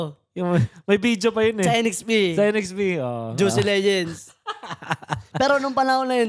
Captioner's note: laughs